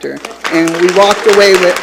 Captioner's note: attendees applauding